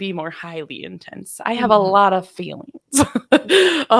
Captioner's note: laughing